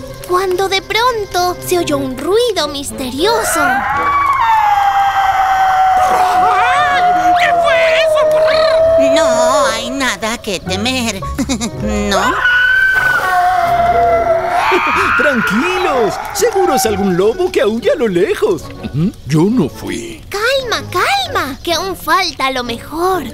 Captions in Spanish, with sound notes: Cuando de pronto se oyó un ruido misterioso (Grito misterioso) Ayy que fue eso prr No hay nada que temer (risa nerviosa) no? (Grito misterioso)Tranquilos Seguro es algun lobo que aúlla a lo lejos Yo no fui Clama, calma que aun falta lo mejor